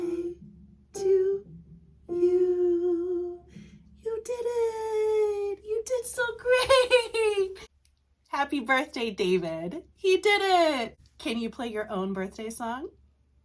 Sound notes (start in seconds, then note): 6.5 laughs